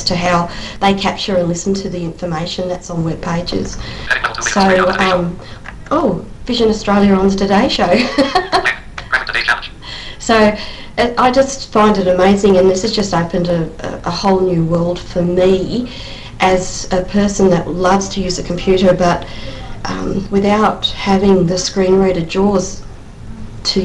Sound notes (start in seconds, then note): 5.3 JAWS reading; 7.9 laugh